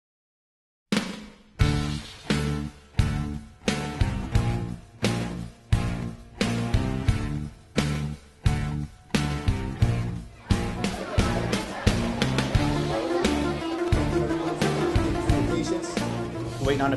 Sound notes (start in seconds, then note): 0.9 upbeat music; 10.3 people chattering; 12.7 upbeat music